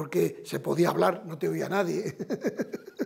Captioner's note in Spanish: Ríe